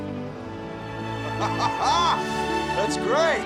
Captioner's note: Don laughs excitedly